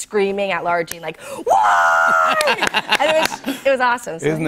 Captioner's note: laughter